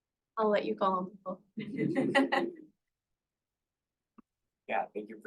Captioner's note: laughter